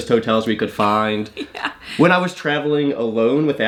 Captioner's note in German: lacht